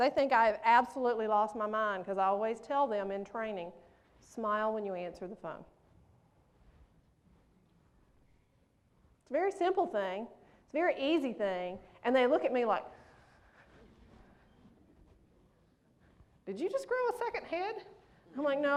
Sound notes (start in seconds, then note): none